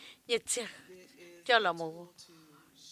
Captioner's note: none